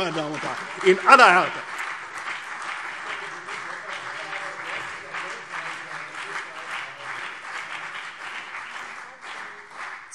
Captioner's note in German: Beifall CDU und BÜNDNIS 90/DIE GRÜNEN